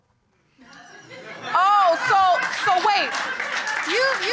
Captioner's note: audience laughing